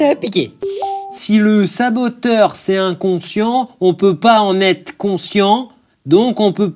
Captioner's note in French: ding